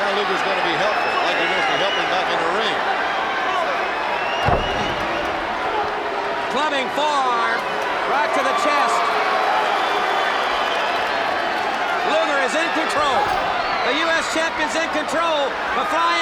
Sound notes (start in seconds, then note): 4.3 blows thudding; 10.4 crowd cheering; 13.3 blows thudding